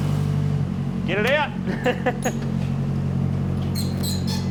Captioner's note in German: Lachend; Quitschend